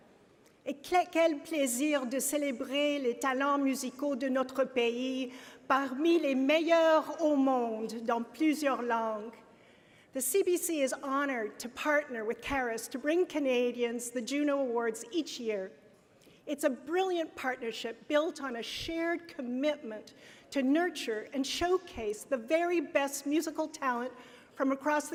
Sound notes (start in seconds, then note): 11.7 speaking French